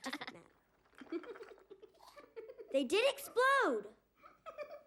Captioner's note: chuckles; keeps chuckling